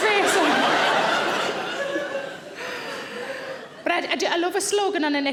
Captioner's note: Sarah laughing; audience laughing